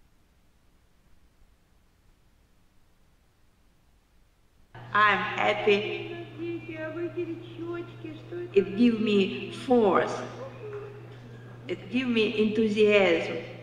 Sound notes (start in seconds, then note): 9.6 speaking in foreign language